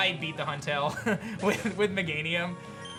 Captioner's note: laughs